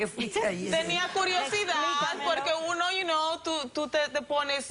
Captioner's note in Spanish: Riendo